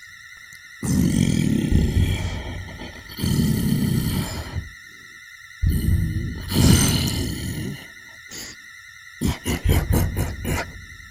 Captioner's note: frustrated sounds, but then he chuckles